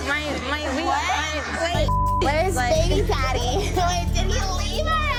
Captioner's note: laughs